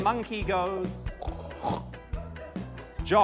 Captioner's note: snorts